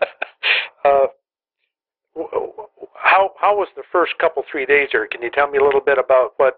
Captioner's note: laughter